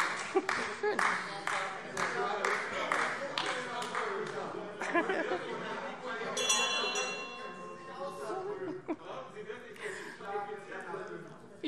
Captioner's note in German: Beifall AfD - Fortgesetzte Zurufe - Unruhe - Glockenzeichen